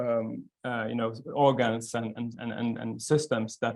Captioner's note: stammering